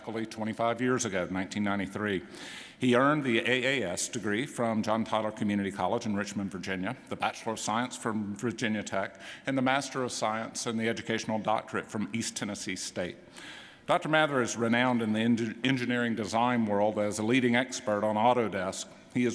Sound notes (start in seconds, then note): none